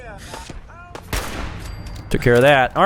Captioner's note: blam!